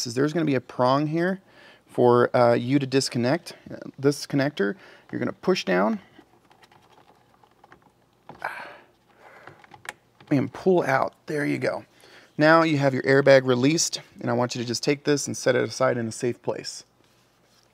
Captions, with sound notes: is there's gonna be a prong here for you to disconnect, this connector, you're gonna push down (grunts) and pull out, there you go. Now, you have your airbag released and I want you to just take this and set it aside in a safe place.